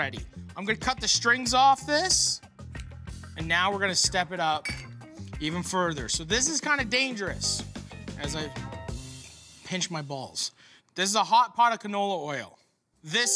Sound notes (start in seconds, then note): none